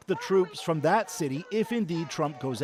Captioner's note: chanting